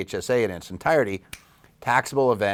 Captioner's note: click fingers